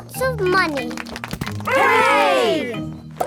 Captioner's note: crowd applauding